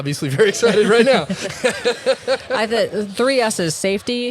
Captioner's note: both laugh